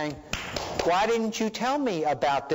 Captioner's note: clapping